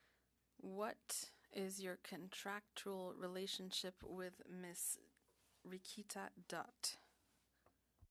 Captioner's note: speaking French